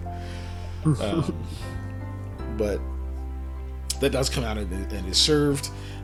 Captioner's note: chuckle